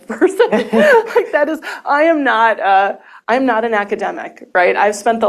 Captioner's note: chuckles